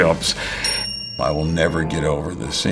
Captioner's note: bell dings